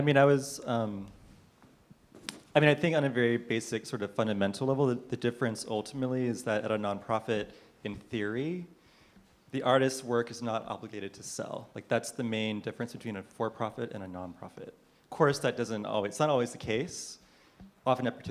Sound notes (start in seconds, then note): none